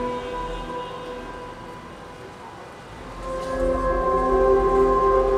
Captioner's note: traffic moving and horns honking; soft dramatic music